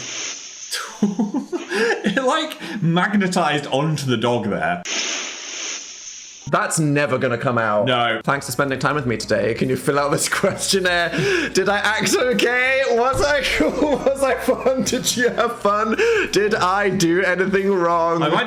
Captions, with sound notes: (laughs) - It like magnetized onto the dog there. (beans rustling) - That's never gonna come out. - No. - Thanks for spending time with me today. Can you fill out this questionnaire? Did I act okay? Was I cool, was I fun? Did you have fun? Did I do anything wrong?